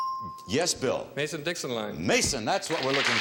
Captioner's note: bell dinging